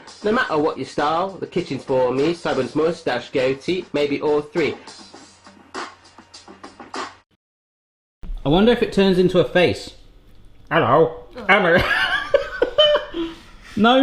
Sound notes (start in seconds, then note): 5.0 steady percussion beat; 10.7 in wacky voice; 11.7 laughing